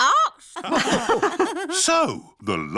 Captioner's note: all laugh